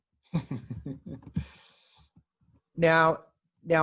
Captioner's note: laughs